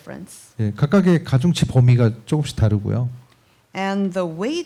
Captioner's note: speaking korean